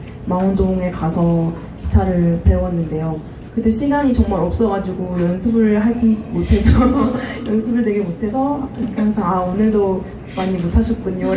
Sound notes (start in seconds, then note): 6.5 teacher laughing >_<